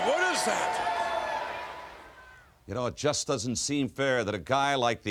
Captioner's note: applause